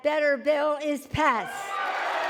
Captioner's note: cheering and applause